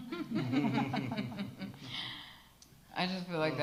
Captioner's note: all laugh